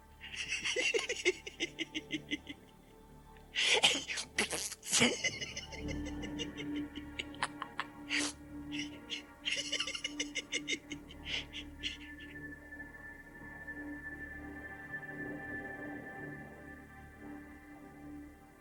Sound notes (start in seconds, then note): 0.3 Gatekeeper laughs; 3.5 Gatekeeper blows a raspberry, then keeps laughing